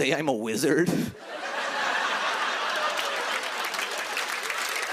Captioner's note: laughter; cheers and applause